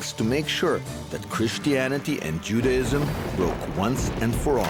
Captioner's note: thunder clapping